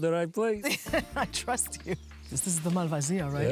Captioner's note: laughs